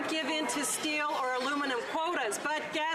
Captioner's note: some Applause